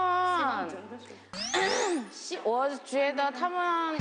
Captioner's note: cough